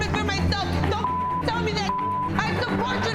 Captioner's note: beep